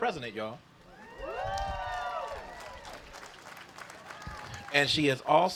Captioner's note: applause